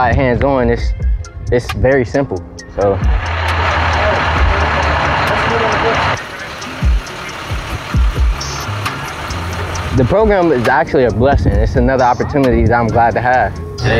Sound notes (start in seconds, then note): 2.9 bus engine revving